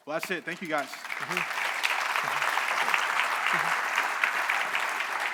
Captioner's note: audience clapping